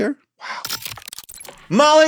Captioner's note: scene change crackles